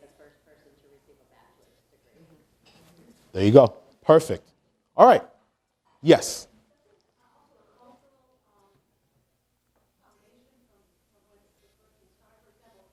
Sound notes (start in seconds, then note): 7.9 audience member speaking quietly